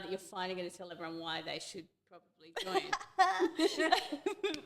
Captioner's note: both laughing